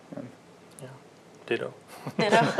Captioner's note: laughter